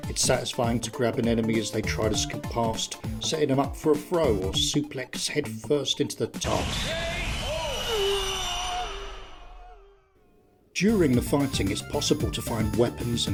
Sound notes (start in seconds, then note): 6.9 slow motion groan of defeat